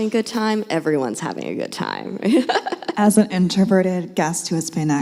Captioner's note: laughs